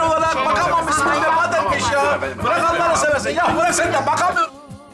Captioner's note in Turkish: Münakaşa sesleri; Fonda müzik